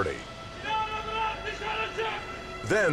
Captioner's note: man yells